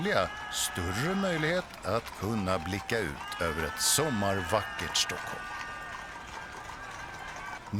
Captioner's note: cheering and music